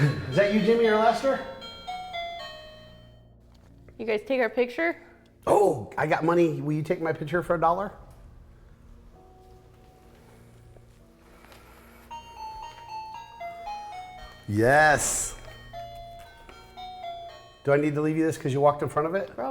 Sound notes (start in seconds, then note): 12.1 motion sensor chime